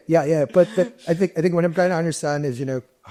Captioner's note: chuckles